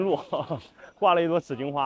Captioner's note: haha